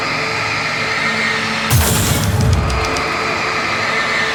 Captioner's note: burst